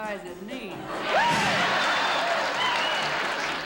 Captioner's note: laughter